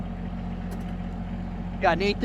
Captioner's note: tractor engine revving